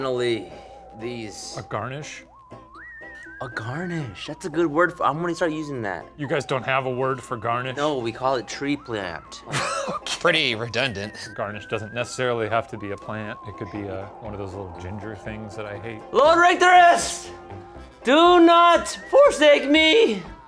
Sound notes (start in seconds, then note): 9.4 laughs